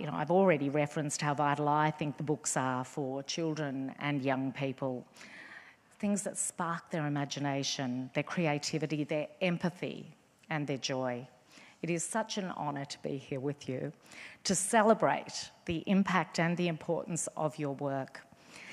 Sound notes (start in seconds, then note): none